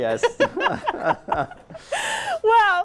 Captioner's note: laughter